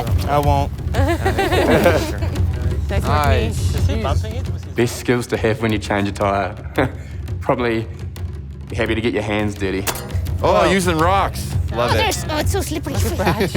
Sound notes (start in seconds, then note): 0.9 both laughing